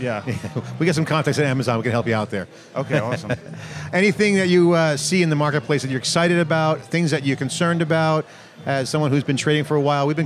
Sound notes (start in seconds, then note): 2.7 laughs